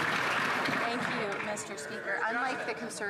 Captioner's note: some Applause